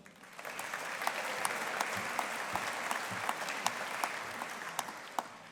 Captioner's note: audience applauding